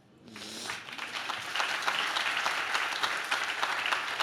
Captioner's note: audience claps